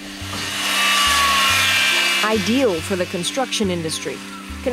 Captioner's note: saw buzzing